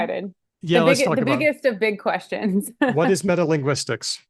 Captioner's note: laughs